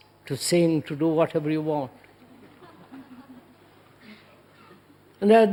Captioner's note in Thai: หัวเราะ